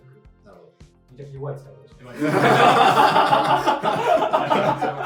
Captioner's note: laughs